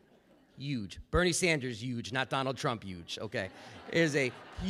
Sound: laughter

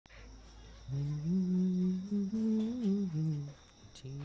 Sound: humming

